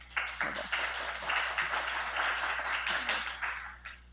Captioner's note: applause